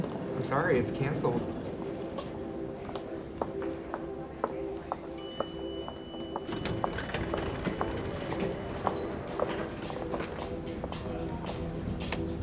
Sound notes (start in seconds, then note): 1.7 moody music; 5.1 elevator dings